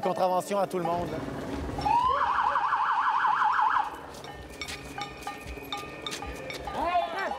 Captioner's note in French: sirènes